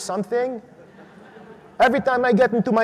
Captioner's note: audience laughs